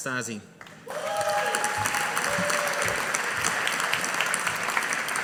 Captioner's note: audience applauding